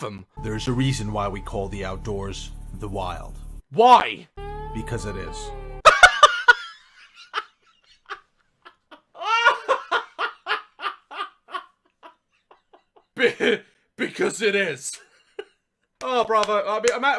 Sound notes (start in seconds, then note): 5.8 laughter; 5.8 bursts into a fit of laughter